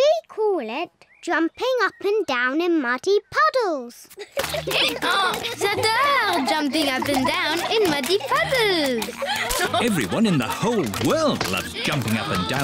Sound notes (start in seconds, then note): 4.6 brays